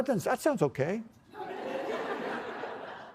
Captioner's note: laughter